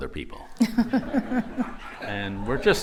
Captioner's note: laughter